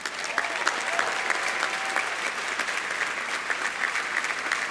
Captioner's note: audience applauding